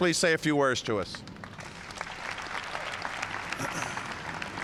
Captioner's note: applause